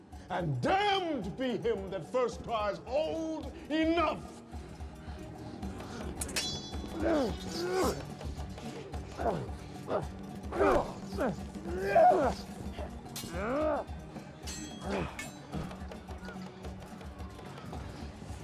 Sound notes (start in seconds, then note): 7.1 grunting; 14.4 swords clanging